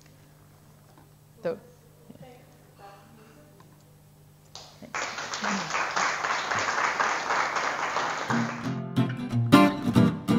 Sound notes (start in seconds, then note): 3.0 audience applause; 5.3 music playing-- no dialogue